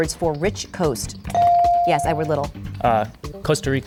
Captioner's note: bell dings